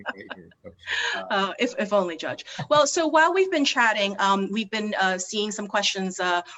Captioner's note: laughing